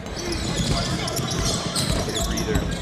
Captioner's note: tennis shoes squeaking